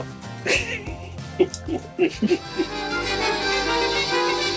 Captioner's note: laughing; dramatic music